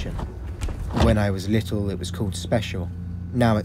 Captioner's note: door opening; electrical humming